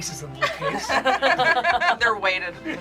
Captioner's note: group laughs